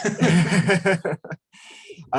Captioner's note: laughs